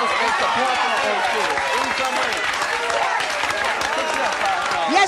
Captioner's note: applause